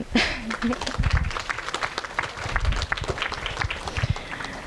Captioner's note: audience applauding